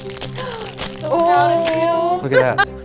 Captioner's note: gasps